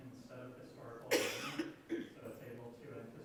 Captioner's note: woman coughing